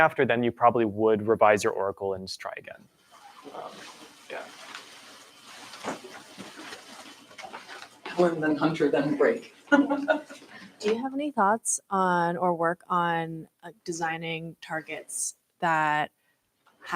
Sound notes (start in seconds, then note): 9.6 laughs